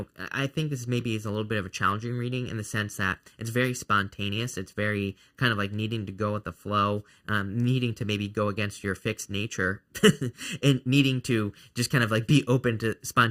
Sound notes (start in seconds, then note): 10.0 laughing